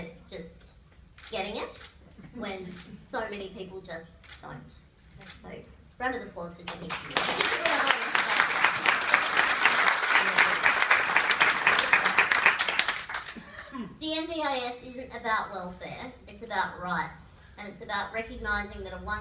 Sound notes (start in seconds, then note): 9.9 applause